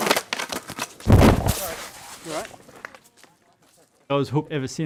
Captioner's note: skateboard clatters